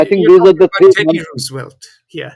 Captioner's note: laughs